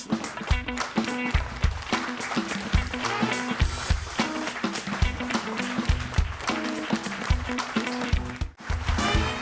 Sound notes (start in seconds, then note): 2.0 audience applauding; 2.0 upbeat jazz music